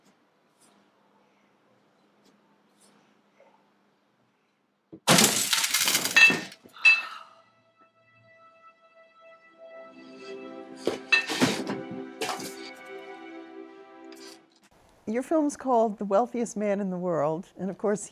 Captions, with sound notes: [ Item shattering ] >> Your film's called The Wealthiest Man in the World,